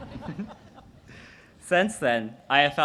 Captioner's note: audience laughs